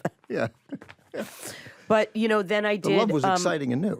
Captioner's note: chuckles